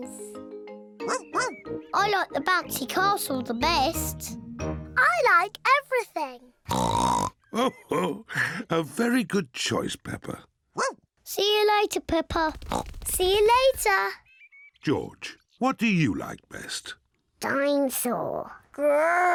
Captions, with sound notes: (BARKS) I like the bouncy castle the best. I like everything. (OINKS) (CHUCKLES) A very good choice, Peppa. (BARKS) See you later, Peppa. (OINKS) See you later! George, what do you like best? Dinosaur. (ROARS)